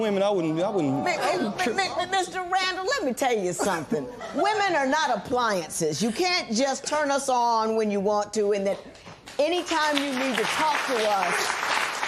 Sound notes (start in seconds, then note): 0.5 spectators murmuring; 4.2 laughter; 9.2 applause